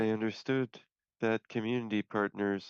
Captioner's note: speaking French